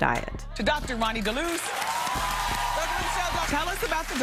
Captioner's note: audience applauding